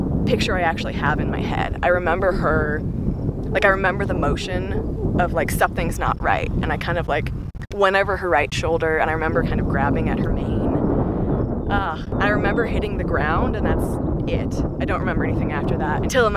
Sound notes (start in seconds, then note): 11.8 sighs